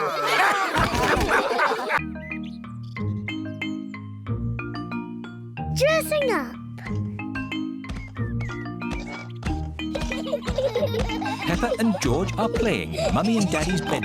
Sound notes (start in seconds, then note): 0.0 all laugh; 9.9 both laughing